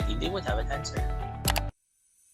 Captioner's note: click sound